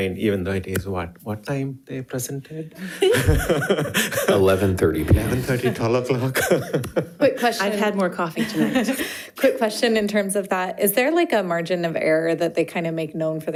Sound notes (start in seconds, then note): 2.8 members laughs; 6.9 laughs